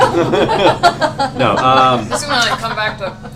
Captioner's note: laughter